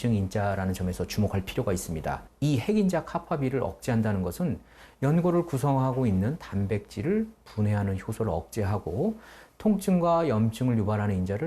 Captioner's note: voiceover